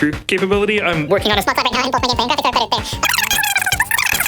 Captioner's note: audio speeds up